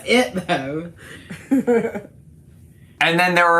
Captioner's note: laughs